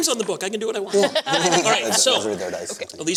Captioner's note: laughter